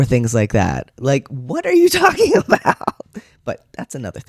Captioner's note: laughter